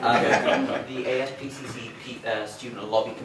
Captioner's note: laughter